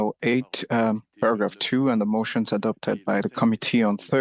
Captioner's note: speaking French